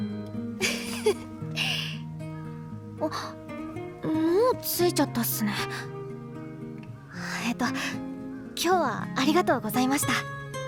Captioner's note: chuckles